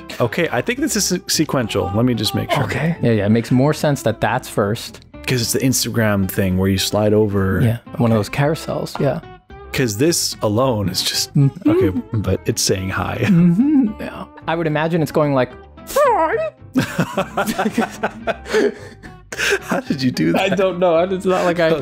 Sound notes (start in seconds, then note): 16.7 laughter